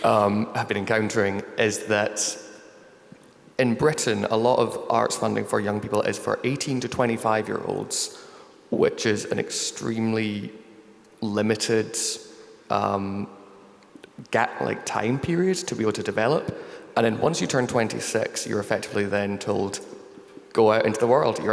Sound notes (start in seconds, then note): none